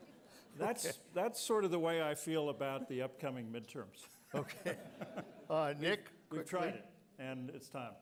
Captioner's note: laughter